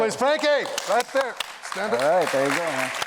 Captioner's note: applause